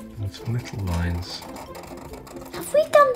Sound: pen scratching

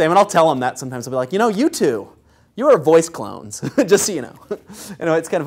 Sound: laugh

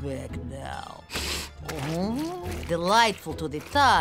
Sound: sniffing

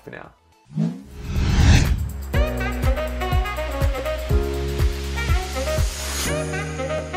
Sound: air whooshing; upbeat jazz music

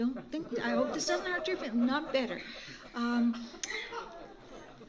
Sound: laughter

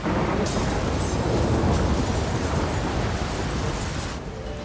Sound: thunder, rain storm

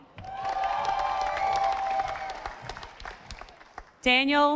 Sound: audience applauding

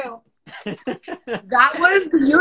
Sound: laughs

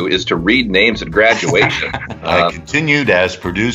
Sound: laughs

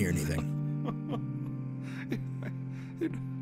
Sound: Gideon sobs

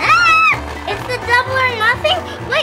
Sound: screaming

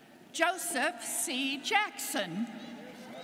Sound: none

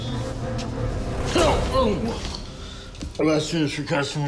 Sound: startled shout

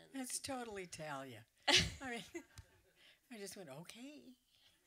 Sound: laughter

